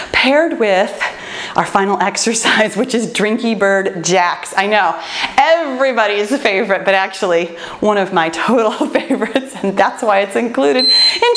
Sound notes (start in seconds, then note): 8.5 laughs